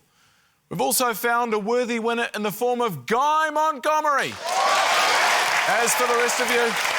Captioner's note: cheering, applause